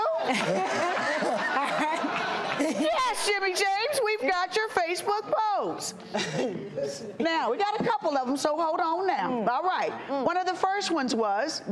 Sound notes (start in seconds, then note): 0.0 everyone laughs; 6.1 chuckles